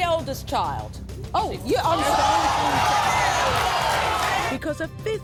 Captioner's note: audience shouting